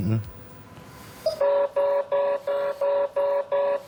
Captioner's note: alarm signal